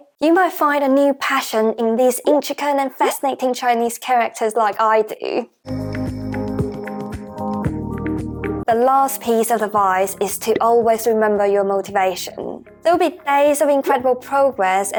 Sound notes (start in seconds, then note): 3.4 Mandarin